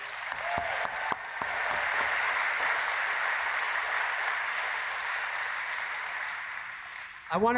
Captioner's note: applause